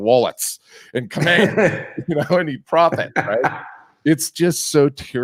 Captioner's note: laughs